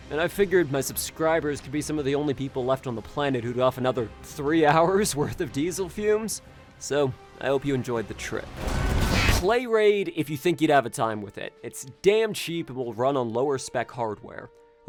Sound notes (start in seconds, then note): 8.5 car crashes